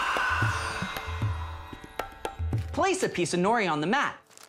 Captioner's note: inhales; exhales